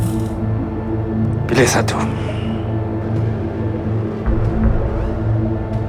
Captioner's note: speaking in foreign language